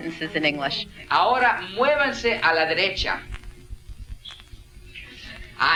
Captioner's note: in a foreign language